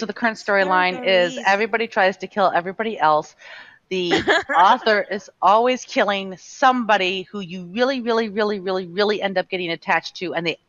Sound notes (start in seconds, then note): 4.1 laughing